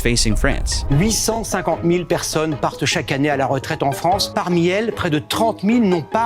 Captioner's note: news host speaking in foreign language